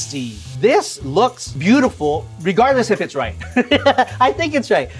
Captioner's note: laughing